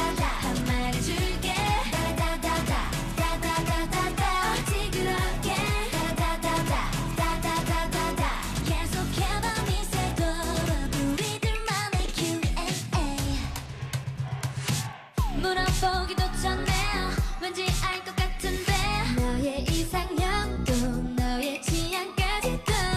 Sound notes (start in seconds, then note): 14.2 fanchant